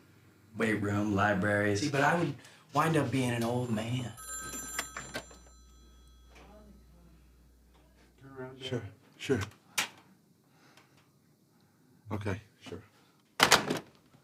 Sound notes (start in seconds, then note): 3.1 phone rings; 9.9 door clicks open